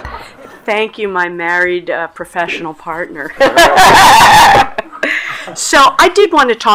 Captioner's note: laughs